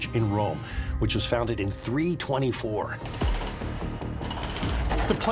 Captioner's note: jackhammer clacking